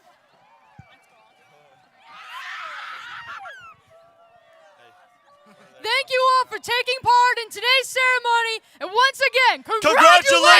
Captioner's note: applause